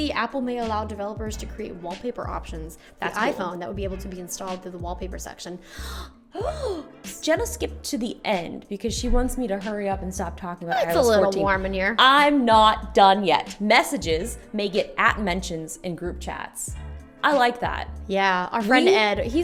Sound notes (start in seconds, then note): 5.6 gasps